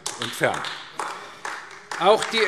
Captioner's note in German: Beifall AfD